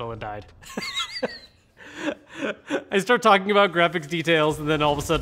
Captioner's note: laughing